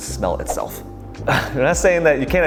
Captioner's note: chuckling